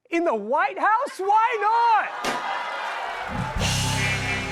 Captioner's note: laughter, groans